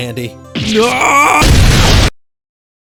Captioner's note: boom